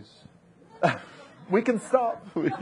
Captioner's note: audience laughing